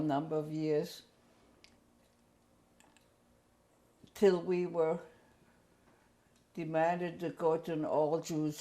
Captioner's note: pauses for 3 seconds